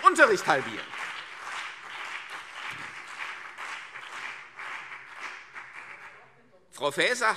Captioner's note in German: Beifall CDU und BÜNDNIS 90/DIE GRÜNEN